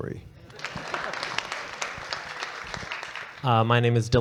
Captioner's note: audience clapping